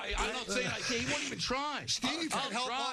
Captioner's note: laughing